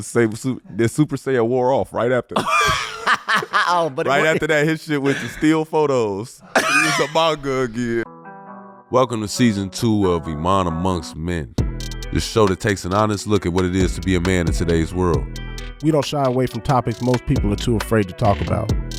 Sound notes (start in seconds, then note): 2.3 laughing; 11.7 upbeat music